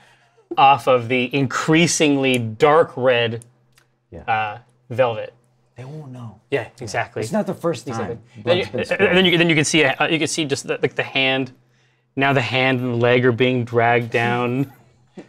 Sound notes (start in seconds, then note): 8.7 stammers